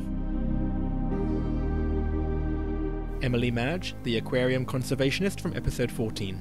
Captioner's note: voiceover